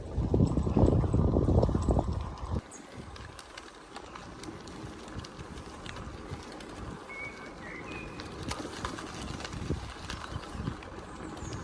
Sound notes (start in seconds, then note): 3.3 tyre noise on Asphalt, Birds chirping in Background